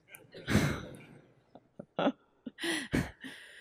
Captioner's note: laughing